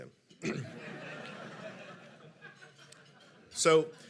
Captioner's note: audience laughing